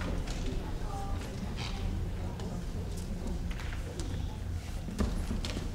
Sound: people faintly chatting

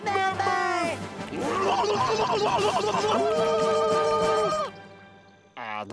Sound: squealing

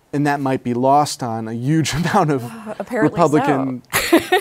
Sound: laughs

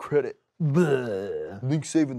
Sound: groans

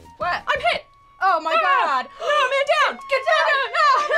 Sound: gasps; ambulance siren

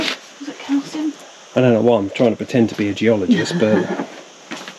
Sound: laughter

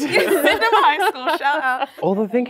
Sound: laughing

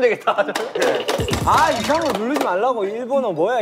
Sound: Taetae's endless typing

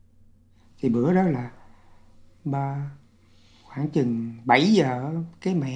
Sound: speaking foreign language

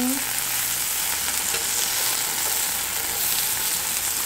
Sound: frying sounds

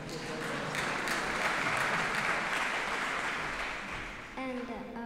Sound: applause

